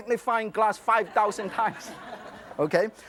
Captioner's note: audience laughs